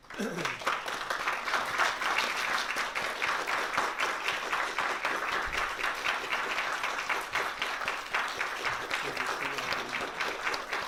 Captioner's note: applause